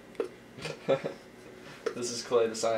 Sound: laughing

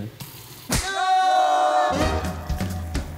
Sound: voiceover; upbeat music

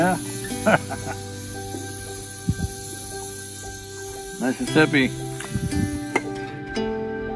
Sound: laughs

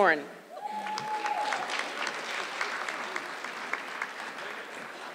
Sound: audience clapping

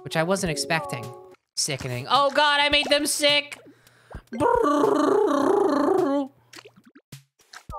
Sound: tongue trilling

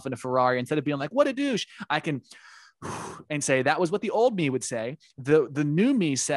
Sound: deep breath

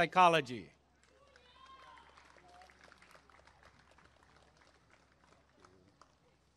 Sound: applause and cheering

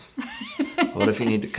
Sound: laughs

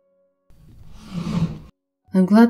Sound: the chairs scrape on the floor briefly

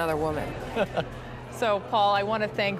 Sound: chuckling

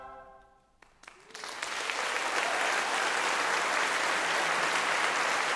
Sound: applause

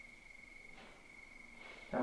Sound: bang

